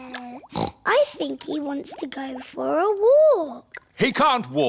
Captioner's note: babbles; snorts